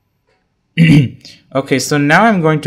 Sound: throat clear

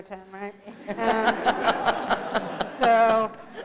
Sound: laughter

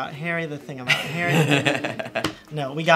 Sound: laughing

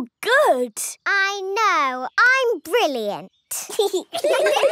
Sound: giggling; laughter

